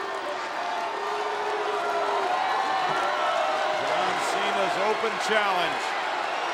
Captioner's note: crowd cheering